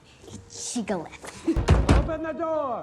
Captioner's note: door knocking